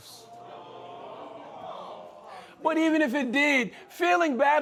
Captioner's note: crowd